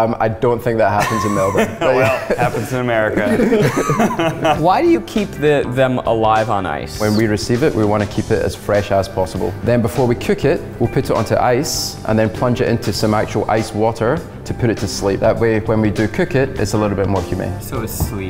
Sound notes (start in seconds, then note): 3.8 everyone laughs